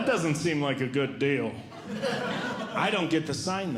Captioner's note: audience Laughing